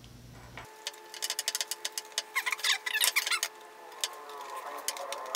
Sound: tape fast forward warble

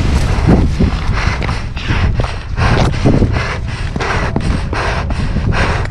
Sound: breaths heavily

